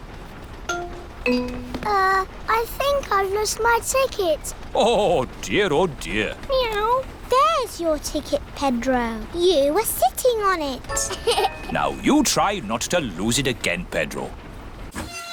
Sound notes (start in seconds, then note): 11.0 laughs